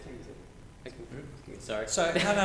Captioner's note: recording technician muttering